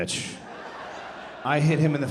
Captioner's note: audience laughing